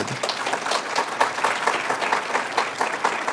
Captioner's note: applause